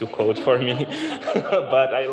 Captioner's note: laughter